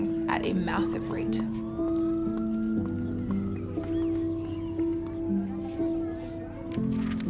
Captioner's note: melancholy piano; sirens